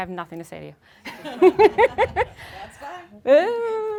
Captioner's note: laughing